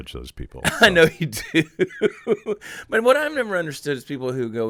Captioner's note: laughing